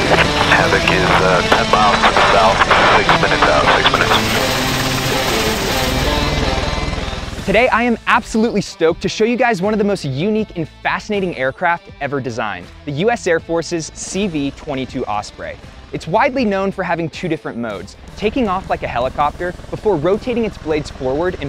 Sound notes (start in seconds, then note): 4.6 blades whirring; 4.6 energetic music